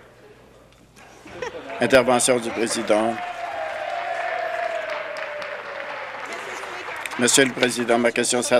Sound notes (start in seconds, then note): 1.6 applause